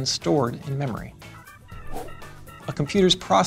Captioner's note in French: whoosh